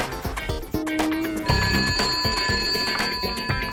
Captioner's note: phone rings